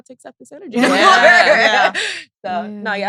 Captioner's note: all laughing